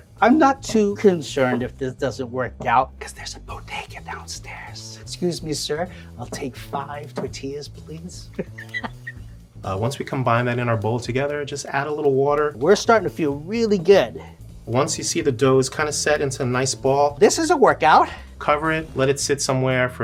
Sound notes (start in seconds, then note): 8.2 laughing